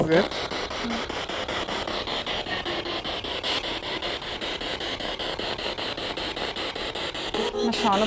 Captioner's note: sound of the Spirit Box in the background